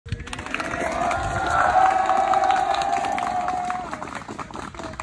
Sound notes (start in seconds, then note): 0.1 applause